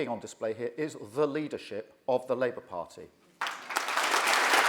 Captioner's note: applause